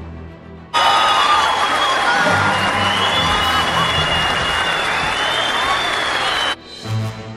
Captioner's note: audience cheers, laughs uproariously